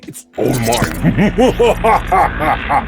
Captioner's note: laughs